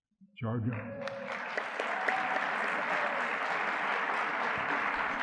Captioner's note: audience clapping